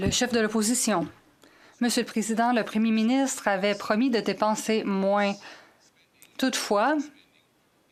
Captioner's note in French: voix de l'interprète